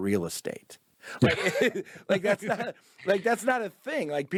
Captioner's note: both laugh